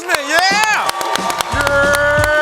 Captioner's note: applause